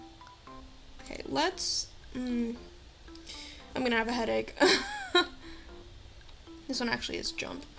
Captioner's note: laughs